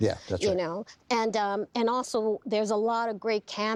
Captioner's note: laughing